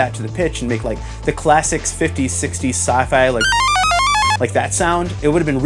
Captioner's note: S+H pitch sound